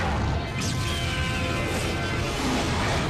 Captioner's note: roars; screeches